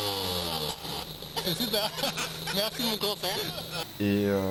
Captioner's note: laughs